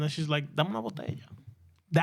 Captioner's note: speaking In Spanish